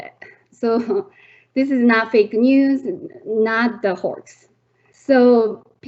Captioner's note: chuckling